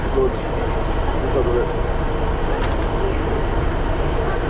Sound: train idles

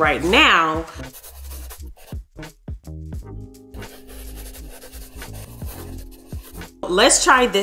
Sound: chalk brushing; muffled gentle music

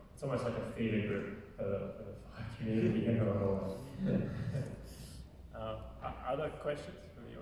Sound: laughing

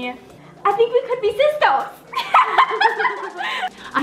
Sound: laughs

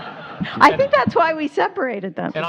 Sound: laughter

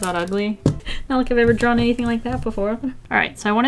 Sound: sarcastically

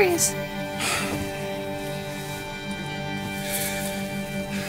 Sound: sighs

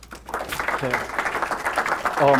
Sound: audience applause

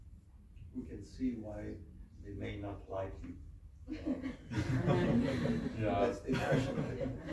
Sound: laughs

